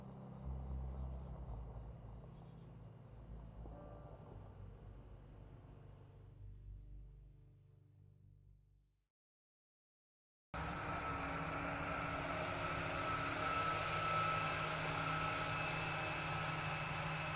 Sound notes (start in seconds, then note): 0.2 poignant music continuing to play; 10.6 combine harvester roaring